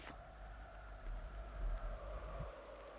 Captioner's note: wind howling